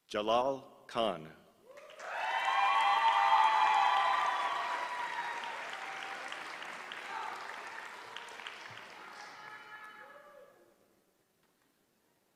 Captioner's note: applause